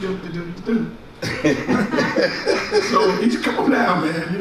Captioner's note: laughs